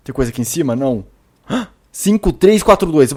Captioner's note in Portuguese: suspiro